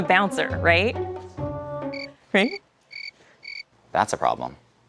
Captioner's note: crickets chirping